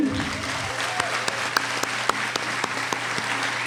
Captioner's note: applauding